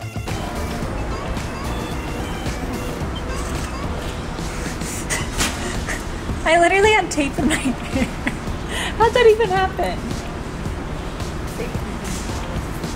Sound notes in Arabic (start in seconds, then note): 4.9 يضحك